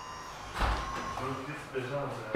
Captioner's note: whirring, quiet conversation